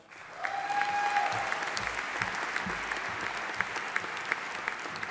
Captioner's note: audience applauding